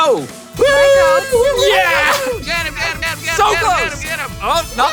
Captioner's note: laughs